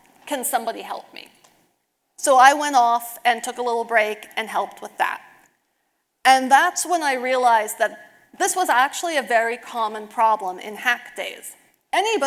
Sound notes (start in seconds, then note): none